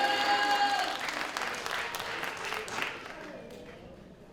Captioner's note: applause